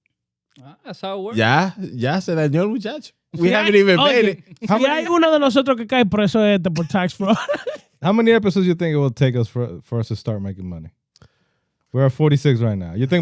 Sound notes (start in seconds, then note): 4.8 speaking Foreign Language